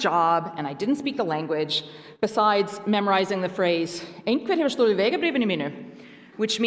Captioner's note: Icelandic